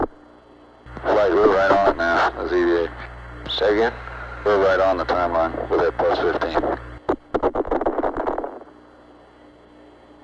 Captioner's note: mission Control Audio